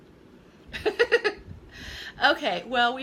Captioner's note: laughing